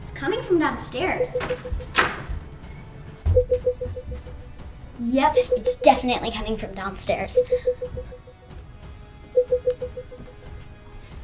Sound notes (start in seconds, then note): 3.3 beeping continues; 9.3 beeping continues